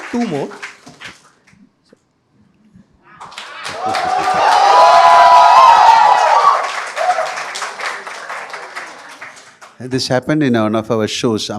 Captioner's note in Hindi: तालियाँ